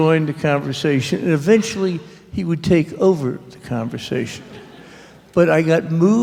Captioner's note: laughter